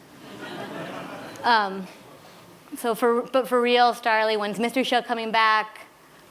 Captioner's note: laughter